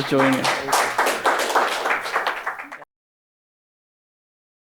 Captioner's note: audience clapping